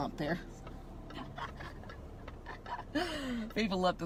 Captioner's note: laughing